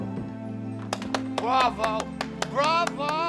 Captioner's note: clapping